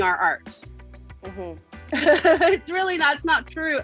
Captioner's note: laughs